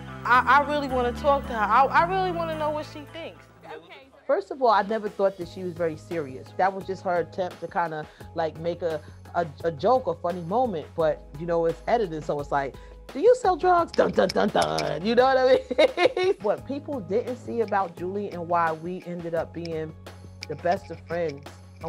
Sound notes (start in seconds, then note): 13.9 vocalizes dramatically; 15.9 laughs